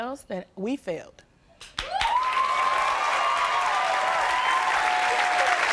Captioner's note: audience cheering